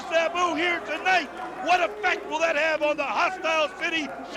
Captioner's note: crowd chatter